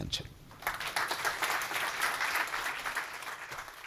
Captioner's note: applause